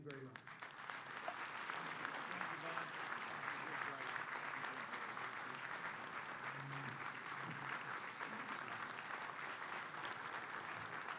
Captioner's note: applause